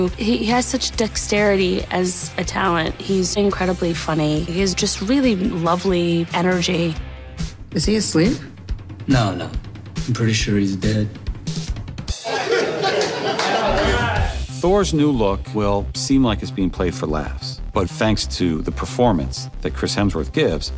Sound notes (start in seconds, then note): 12.2 laughter